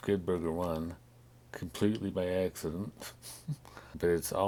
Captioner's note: chuckles